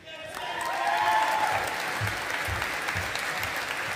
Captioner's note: audience applauding